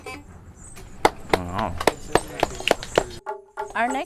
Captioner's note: applauds